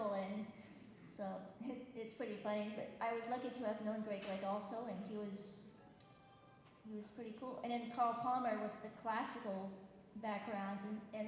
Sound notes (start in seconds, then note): none